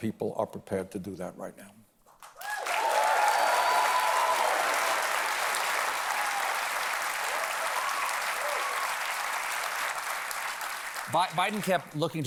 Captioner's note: applause